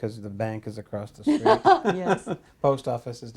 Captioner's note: laughter